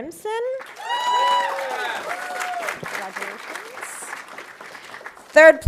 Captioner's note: audience applauding